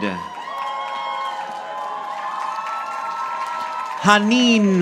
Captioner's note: audience applauding